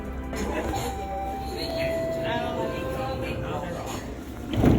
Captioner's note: TTC chime; tram sounds